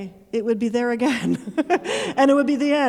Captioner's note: chuckling